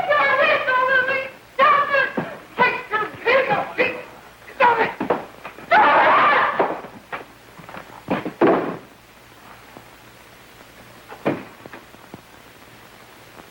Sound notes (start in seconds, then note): 5.7 Blanche yells